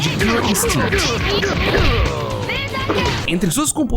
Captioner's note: Killer Instinct SFX